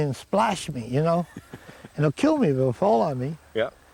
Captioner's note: Don chuckles